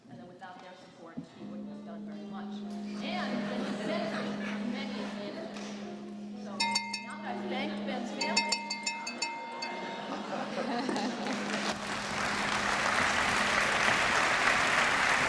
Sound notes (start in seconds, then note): 6.6 bell ringing; 10.8 applause